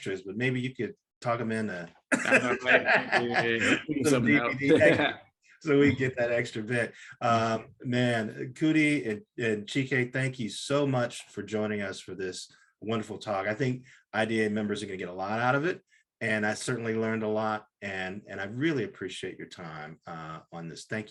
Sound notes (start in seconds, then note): 2.1 all laughing